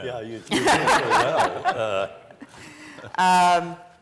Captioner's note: laughter